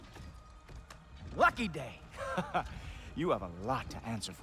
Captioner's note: laughs